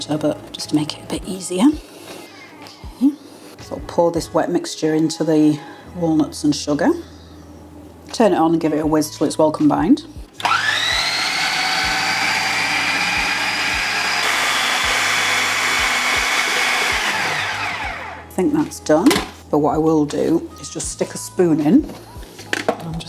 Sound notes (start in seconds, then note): 10.4 food processor whirring